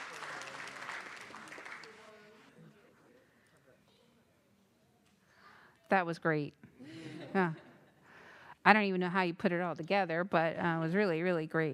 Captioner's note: applause